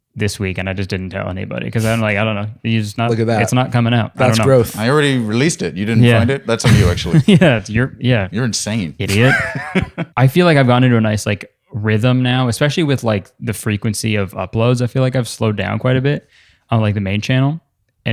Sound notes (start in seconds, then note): 9.0 laughs